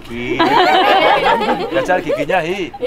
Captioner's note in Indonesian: tertawa